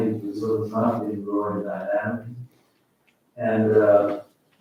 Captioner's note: faintly speaking